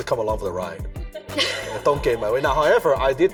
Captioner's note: audience laughs